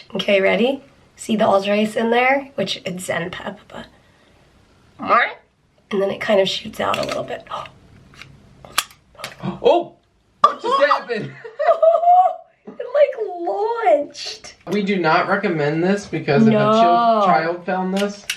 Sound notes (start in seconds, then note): 5.0 makes funny sound; 10.7 both laughing